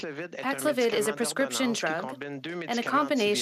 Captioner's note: speaking French